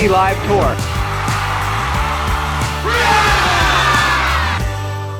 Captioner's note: crowd cheering